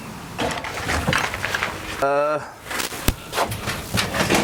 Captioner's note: tools rustling